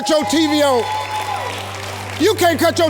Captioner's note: audience cheers